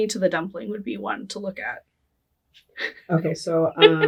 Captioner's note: laughing